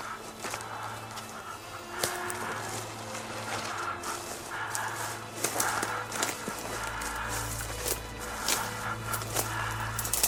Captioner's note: forest atmosphere & heavy breathing